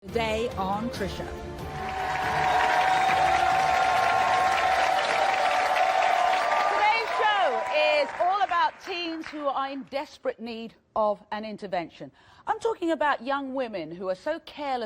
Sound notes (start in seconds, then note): 1.6 audience applauding